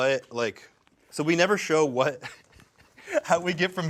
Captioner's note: laughs